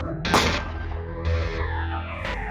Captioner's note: gun shot